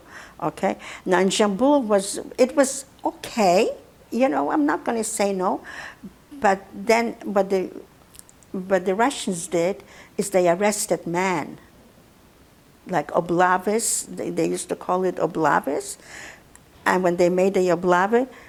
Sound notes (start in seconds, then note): 6.2 mumbling; 13.1 russian; 17.7 russian